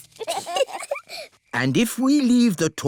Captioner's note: both giggle